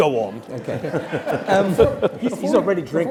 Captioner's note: laugh